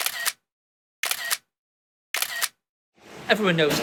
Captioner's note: camera clicks; camera clicks